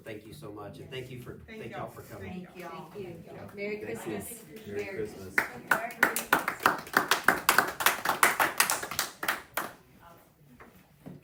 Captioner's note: applause